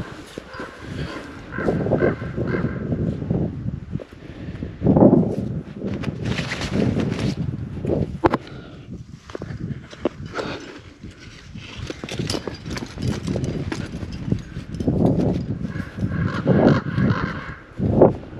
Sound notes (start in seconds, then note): 1.4 crow cawing; 3.4 wind howling; 10.2 exhales sharply; 15.7 crows cawing